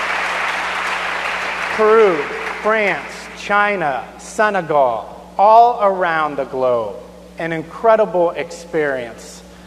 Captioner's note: applause